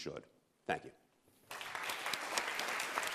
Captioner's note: applause